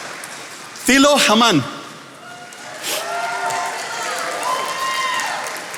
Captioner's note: attendees applauding; attendees applauding